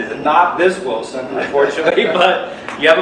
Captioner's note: laughs